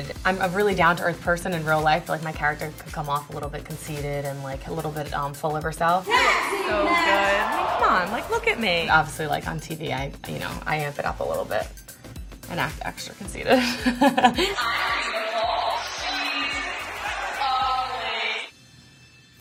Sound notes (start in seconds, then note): 13.5 laughs